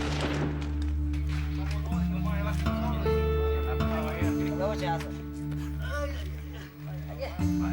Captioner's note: gunshots firing; rebels speaking Spanish